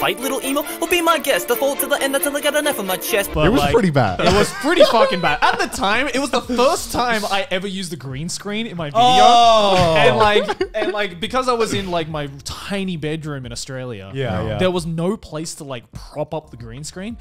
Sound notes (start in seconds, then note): 9.0 cheering